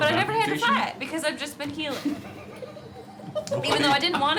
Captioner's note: laughing